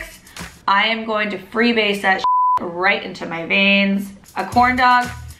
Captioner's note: beep